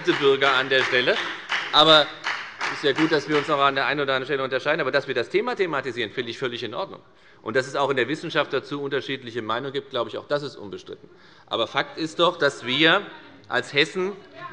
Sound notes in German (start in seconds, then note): 1.5 Beifall bei der FDP